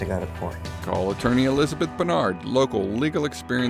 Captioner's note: voiceover